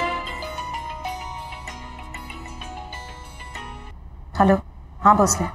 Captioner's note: Phone ringing